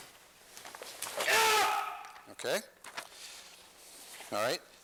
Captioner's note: shouts